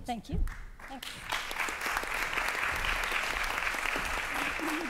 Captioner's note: applause